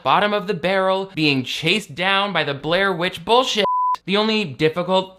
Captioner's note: beep